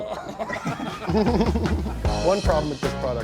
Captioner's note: everyone laughs